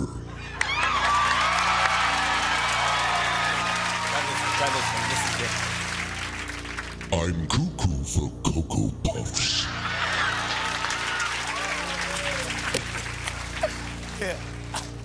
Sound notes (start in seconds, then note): 0.4 cheers and applause; 9.6 cheers and applause